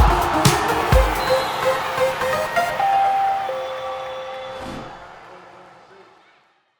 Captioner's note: cheer